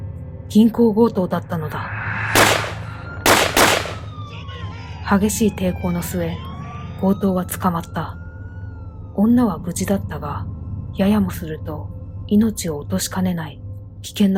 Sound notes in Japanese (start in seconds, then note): 3.2 銃声